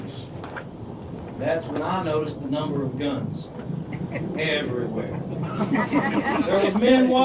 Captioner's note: laughter